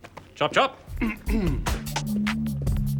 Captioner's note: clears throat